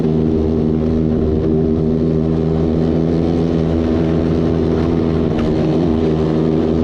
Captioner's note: motor running